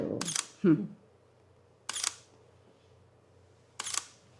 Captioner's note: shutter clicking